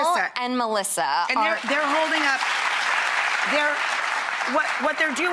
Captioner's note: audience applauds